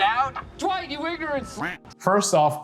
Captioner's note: duck quacking